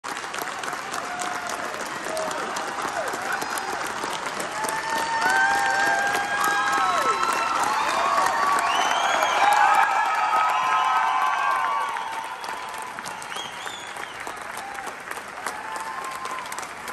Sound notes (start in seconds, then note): 0.2 crowd cheers